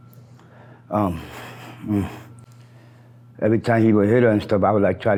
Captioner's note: groans